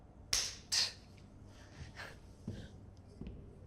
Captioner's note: scoffs